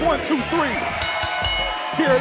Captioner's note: bell ringing